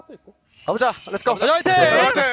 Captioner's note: BuZz